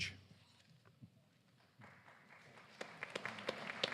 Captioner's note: applause